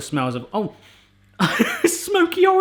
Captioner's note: sniffing; laughing